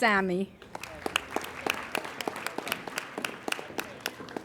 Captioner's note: applauding